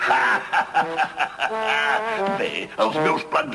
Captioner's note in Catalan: Riallada